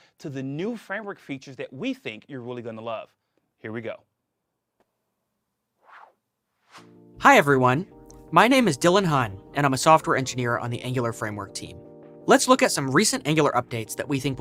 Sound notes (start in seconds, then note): 5.8 whoosh; 6.3 mellow music playing